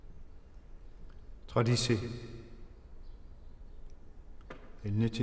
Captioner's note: speaking in French